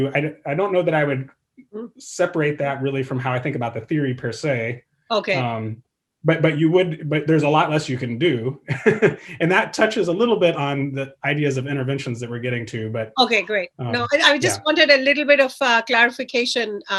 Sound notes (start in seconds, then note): 8.9 laughs